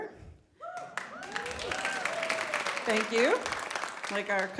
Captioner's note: audience reacts